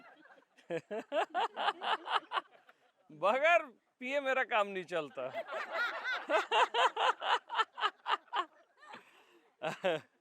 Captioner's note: laughter